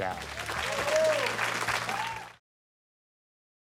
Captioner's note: crowd cheering